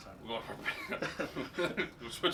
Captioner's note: laughing